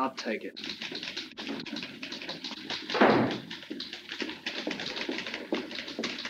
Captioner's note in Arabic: نقرات على مفاتيح الآلة الكاتبة